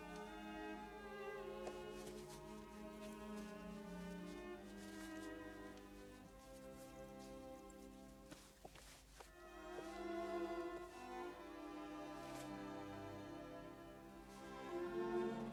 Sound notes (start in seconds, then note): none